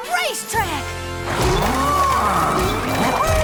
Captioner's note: mooing